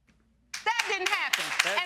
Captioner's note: audience clapping